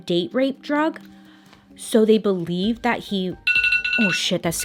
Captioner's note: alarm rings